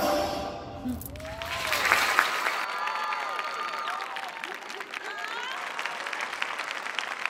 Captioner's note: audience applauding; audience cheering